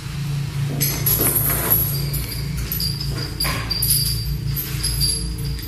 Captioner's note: clanking of shackles